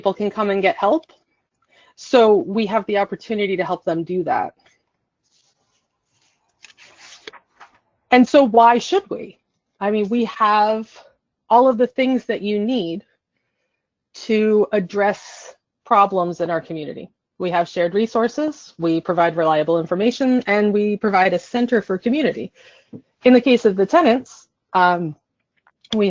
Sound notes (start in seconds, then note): 4.7 silence